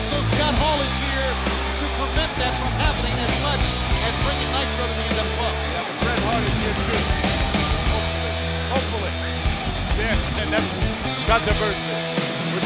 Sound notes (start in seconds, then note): 4.7 speaks faintly; 5.8 Dusty speaks faintly